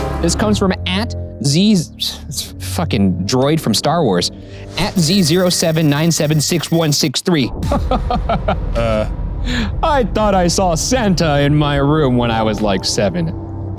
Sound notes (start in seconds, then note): 0.0 dramatic music; 6.5 laughs